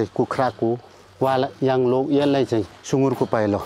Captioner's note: limbu dialect